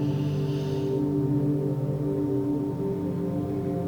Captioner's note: inhaling